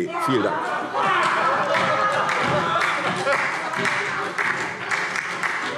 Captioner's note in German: Beifall SPD - Lachen CDU und BÜNDNIS 90/DIE GRÜNEN